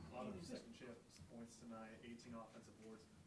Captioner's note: voiceover